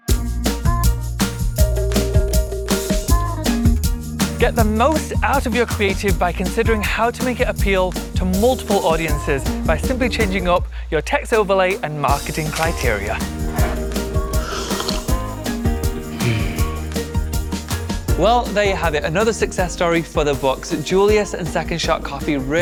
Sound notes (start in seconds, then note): 0.1 upbeat music; 13.2 sipping coffee; 16.1 deeply exhales